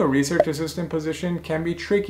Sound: bubble popping

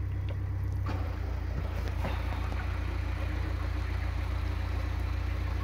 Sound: engine noise changes as boat is thrown into reverse gear!

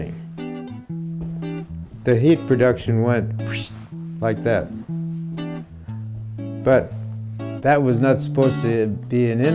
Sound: whistling sound

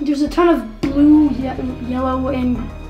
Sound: none

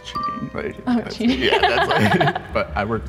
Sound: laughs

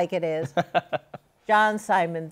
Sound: laughs

